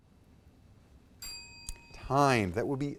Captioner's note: timer dings